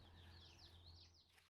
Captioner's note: birds chirping